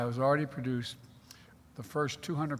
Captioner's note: none